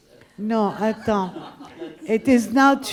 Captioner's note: laughing